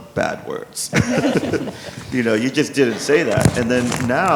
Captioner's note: laughs